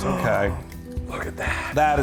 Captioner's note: gasping